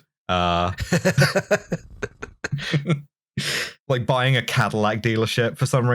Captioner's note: laughter